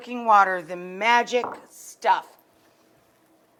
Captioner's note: cup thuds